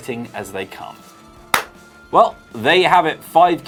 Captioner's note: clap hands